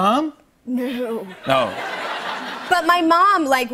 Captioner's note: laughter